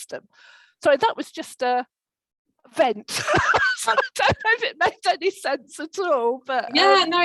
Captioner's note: laughter